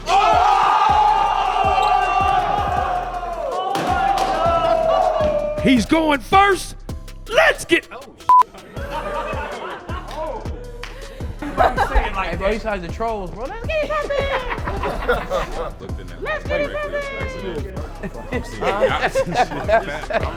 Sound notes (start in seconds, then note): 0.0 cheering; 8.6 laughing; 14.0 high pitched talking; 17.9 laughing